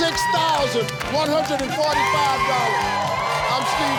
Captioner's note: yelling and clapping